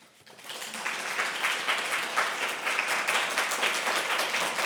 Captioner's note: applause